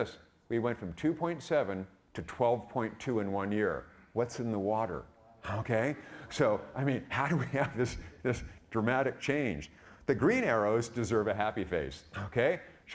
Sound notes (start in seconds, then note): 5.4 audience laughing